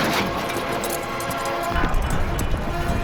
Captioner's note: wood clattering